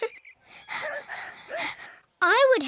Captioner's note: squeaks; both pant; laughs